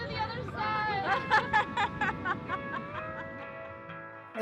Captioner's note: laughing